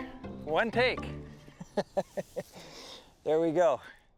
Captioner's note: chuckles